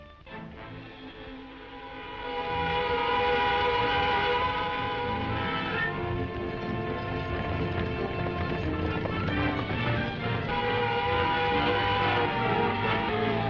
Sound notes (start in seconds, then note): 1.7 siren wails; 6.7 hooves thudding; 10.5 siren wails